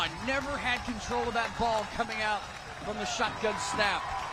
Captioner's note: applause